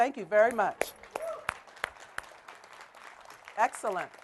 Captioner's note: applause